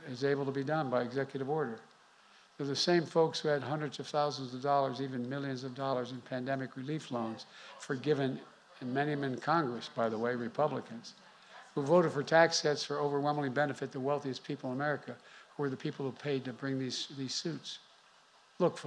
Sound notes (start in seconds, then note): none